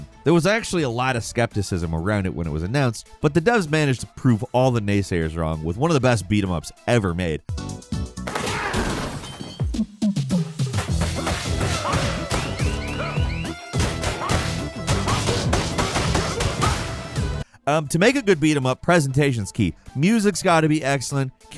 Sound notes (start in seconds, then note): 8.4 glass shattering; 9.5 upbeat music; 10.8 blows thudding; 11.5 fighters grunting